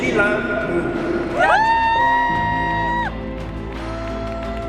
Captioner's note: applause